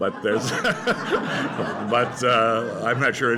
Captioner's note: laughter